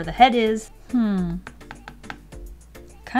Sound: tap tap tap tap

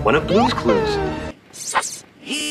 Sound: notebook sus sound effect; steve, buzzing

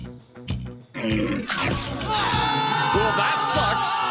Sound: screaming

